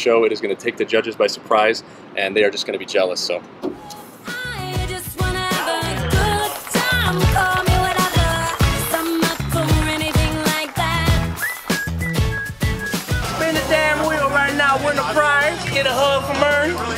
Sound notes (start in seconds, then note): 11.3 whistling